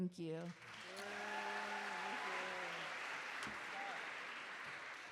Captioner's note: cheering